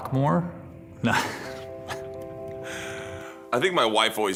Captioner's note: both laugh